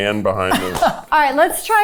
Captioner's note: chuckling